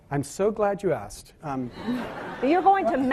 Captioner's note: laughing